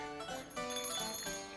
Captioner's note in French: tintement de clochette